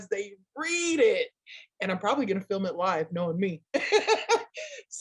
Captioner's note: laughs